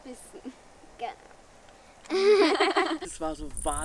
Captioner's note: laughs